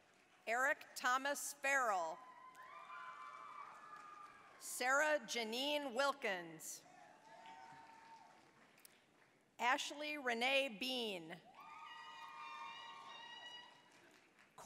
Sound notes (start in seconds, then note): 0.0 applause; 2.2 applause, cheering; 7.2 applause, cheering; 11.5 applause, cheering